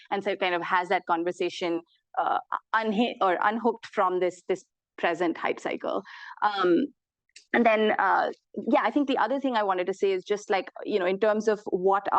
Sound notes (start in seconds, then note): none